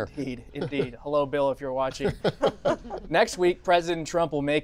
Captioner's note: laughter